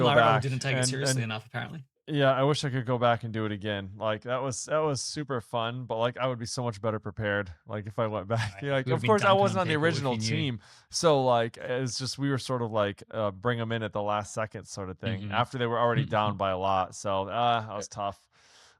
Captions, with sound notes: And Team Laravol didn't take it seriously enough, apparently ... yeah, I wish I could go back and do it again. Like, that was, that was super fun, but, like, I would be so much better prepared, like, if I went back. [laughs] -Like, of course- -You would be Duncan cable if you- ... I wasn't on the original team, so, like, it was just we were sort of like, uh, bring 'em in at the last second sort of thing. -Mm-hmm. -After they were already down by a lot. So, ah, that was tough.